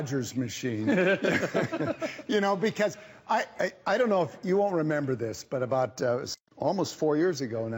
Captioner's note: laughter